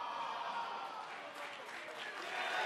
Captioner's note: cheers & applause